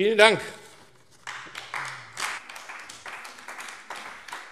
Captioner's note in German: Beifall AfD